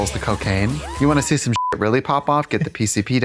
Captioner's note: beep